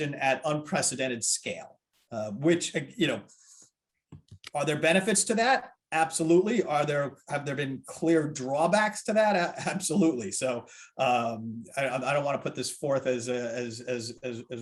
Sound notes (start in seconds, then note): 9.6 chuckles